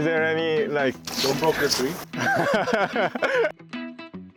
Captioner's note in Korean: 웃음